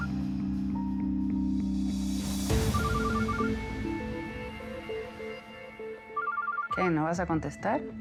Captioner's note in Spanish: Suena el celular